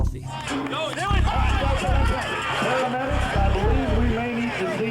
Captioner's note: audience chattering